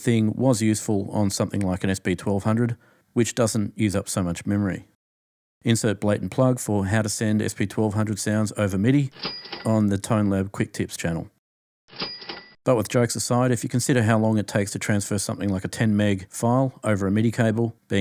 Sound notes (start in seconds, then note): 12.0 ching ching